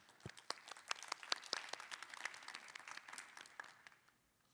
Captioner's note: applause